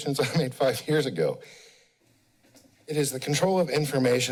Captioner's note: pause